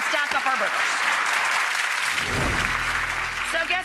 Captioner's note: audience applauding